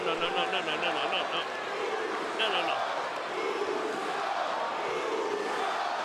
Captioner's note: applause